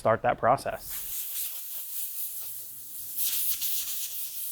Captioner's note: air spraying